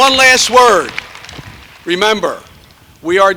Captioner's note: cheers and applause